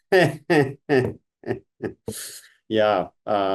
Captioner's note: laughing